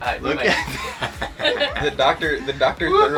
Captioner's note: laughing